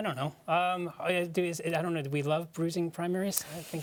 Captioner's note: stammering